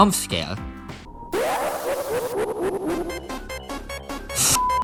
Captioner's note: Sonix.exe noises